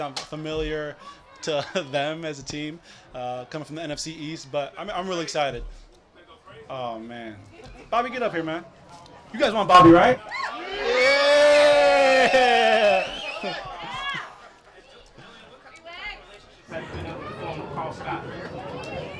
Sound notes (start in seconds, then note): 9.7 crowd cheers; 15.8 crowd chattering